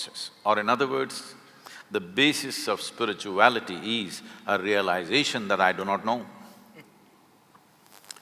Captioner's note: Karan Johar laughs